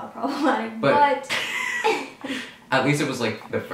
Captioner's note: laughing